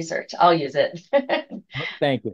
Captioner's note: laughs